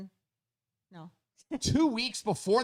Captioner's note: laughs